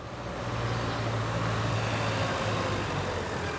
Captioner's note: car approaching